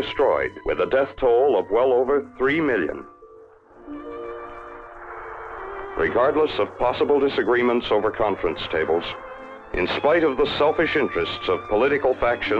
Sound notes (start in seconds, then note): 2.9 fire crackling; 2.9 soft dramatic music